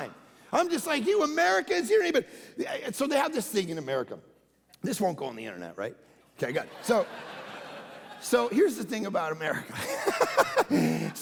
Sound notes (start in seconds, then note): 6.5 congregation laughing; 9.7 laughing